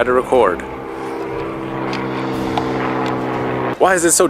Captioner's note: plane engines roars